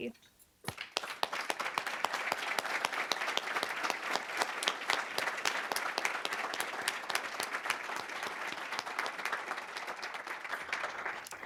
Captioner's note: applause